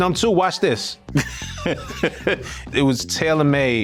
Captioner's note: laughs